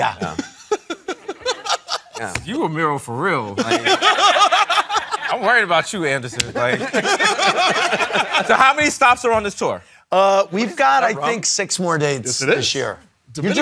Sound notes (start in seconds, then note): 0.0 laughing; 3.6 laughing; 6.3 laughter